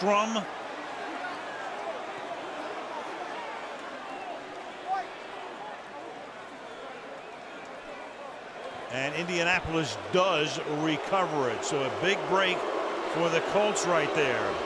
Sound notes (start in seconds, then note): 3.2 booing; 11.2 pa announcement